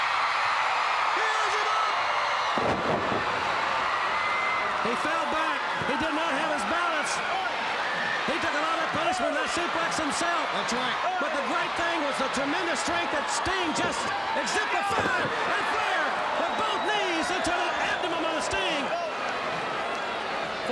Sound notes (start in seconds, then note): 0.1 crowd cheering; 2.7 wrestlers thudding on ring